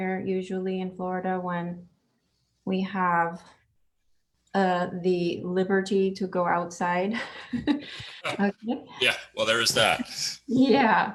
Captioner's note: chuckles